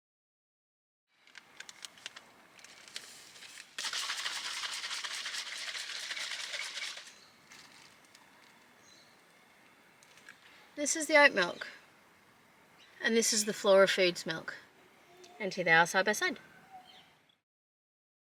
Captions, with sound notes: [plastic packet crinkles] [liquid sloshes as it's shaken in a small bottle] [liquid shloops] This is the oat milk. And this is the Flora Foods milk. And here they are side by side!